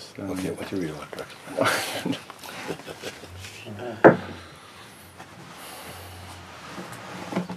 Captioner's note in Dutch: gelach